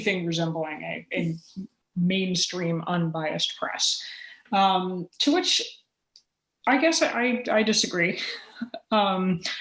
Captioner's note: chuckle